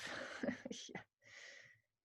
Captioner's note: laughter